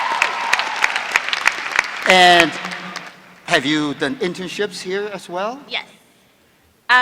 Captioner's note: applause